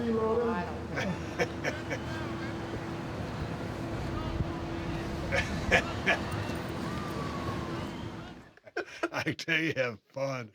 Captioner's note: laugh